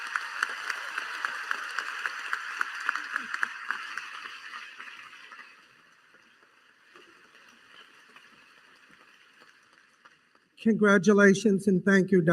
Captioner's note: applause